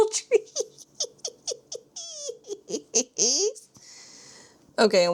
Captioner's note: laughs